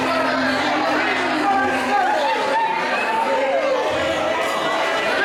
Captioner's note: people chattering excitedly